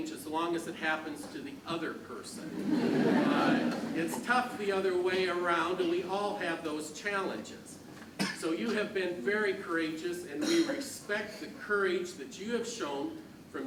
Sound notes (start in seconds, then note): 2.4 crowd laughs